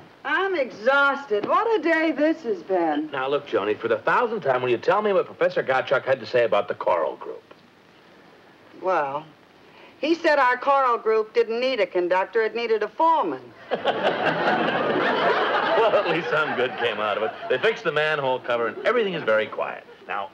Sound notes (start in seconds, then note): 13.6 audience laughs; 13.7 Brad laughs